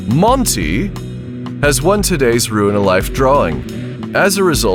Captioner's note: in a British accent